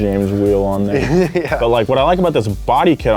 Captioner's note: chuckles